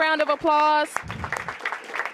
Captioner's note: applause